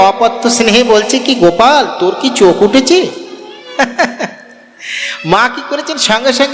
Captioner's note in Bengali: সশব্দ হাসি